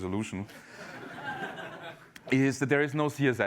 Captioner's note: laugh